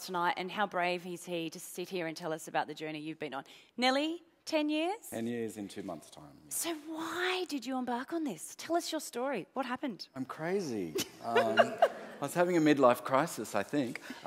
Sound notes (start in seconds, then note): 11.0 laughs